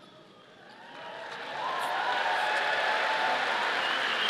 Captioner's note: audience applauding